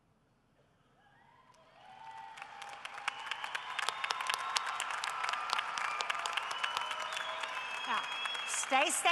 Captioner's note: cheering and applause